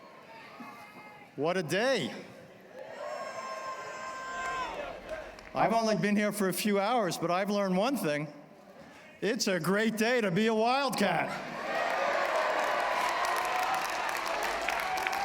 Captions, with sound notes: What a day. [CHEERING] I've only been here for a few hours, but I've learned one thing. It's a great day to be a Wildcat. [APPLAUSE]